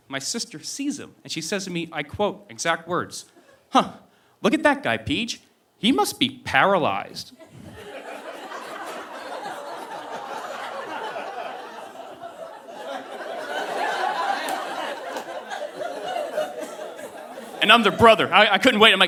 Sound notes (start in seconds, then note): 7.4 audience laughing